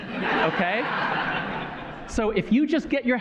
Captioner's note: laughter